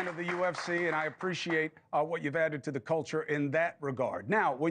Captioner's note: applause